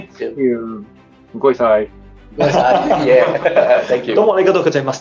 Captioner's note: Cantonese